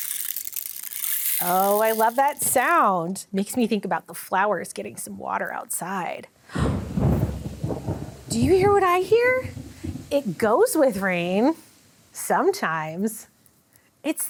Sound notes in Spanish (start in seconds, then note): 0.0 traqueteo de palos de lluvia; 6.4 jadea; 6.5 trueno retumbando